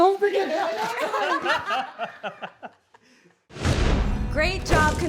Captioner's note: all laugh